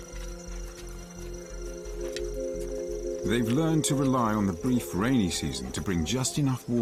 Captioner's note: footsteps thumping; dramatic music